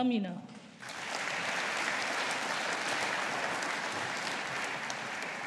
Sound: audience applauding

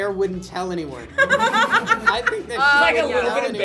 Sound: laughs

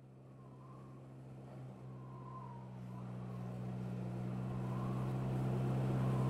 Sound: engine hums; wind whistles

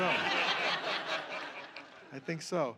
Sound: laughter

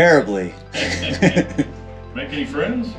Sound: laughing

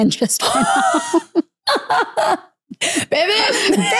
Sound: both laugh

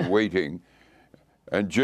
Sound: laughter

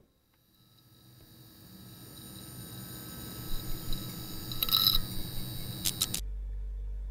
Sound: lightbulb Flicker

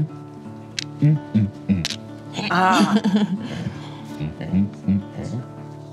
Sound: grunting in singsong

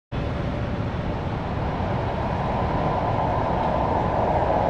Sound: viento

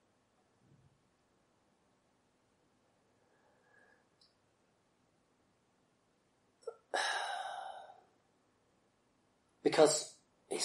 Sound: silence; sighs

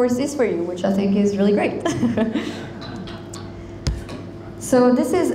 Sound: chuckles

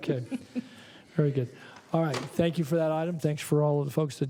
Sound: laughter

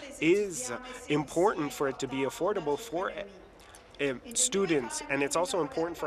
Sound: speaking in French

